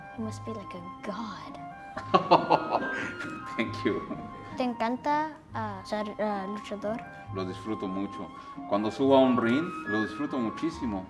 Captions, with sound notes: - You must be like a god. - (laughs) Thank you. (speaking foreign language)